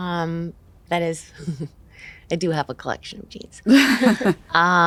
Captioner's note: chuckles